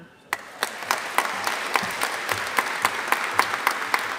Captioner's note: audience applauding